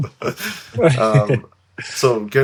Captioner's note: laughing